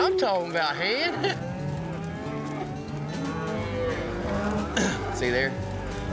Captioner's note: cows moo